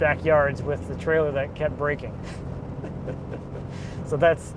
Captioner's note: laughs